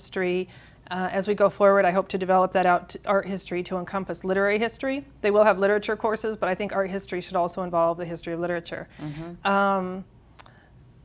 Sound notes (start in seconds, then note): none